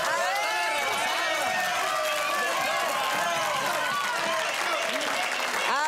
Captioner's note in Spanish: Gritos y exclamaciones